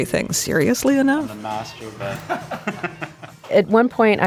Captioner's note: everybody laughing